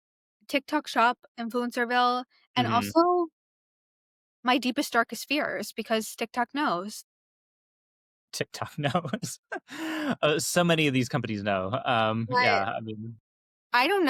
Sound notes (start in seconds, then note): 8.6 chuckling